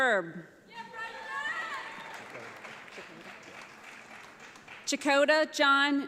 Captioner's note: audience applauds